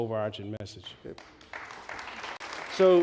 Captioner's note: applause